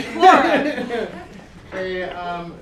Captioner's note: laughter